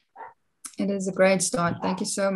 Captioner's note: distant barking